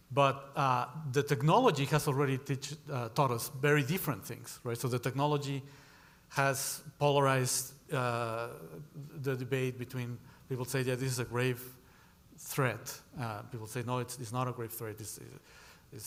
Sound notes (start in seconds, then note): none